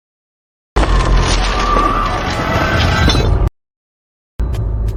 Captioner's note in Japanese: 叫び声